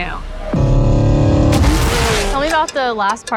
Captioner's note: engine roaring